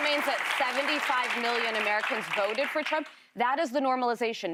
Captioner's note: applause